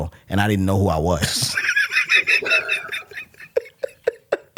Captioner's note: laughs